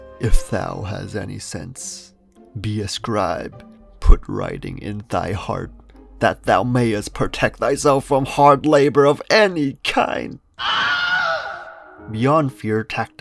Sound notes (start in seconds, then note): 10.5 wilhelm scream cuz y not